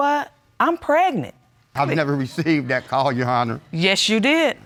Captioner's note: chuckling